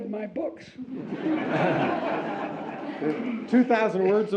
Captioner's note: audience laughs